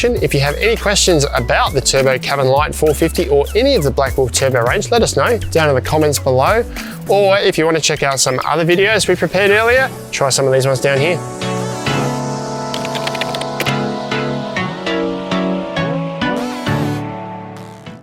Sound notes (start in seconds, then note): 11.4 upbeat music; 12.7 keyboard keys clicking; 15.1 upbeat music